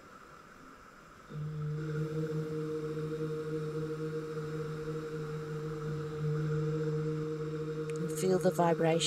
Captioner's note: soft humming